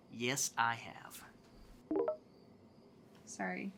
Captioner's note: phone chimes